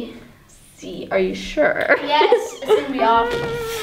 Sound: laughs

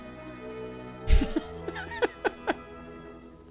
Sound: laughs

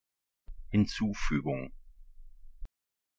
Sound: fast Pronunciation

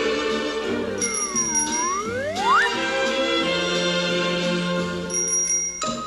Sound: whimsical music; bell chiming; slide whistle; bell chiming

